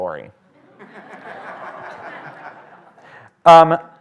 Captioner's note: laughter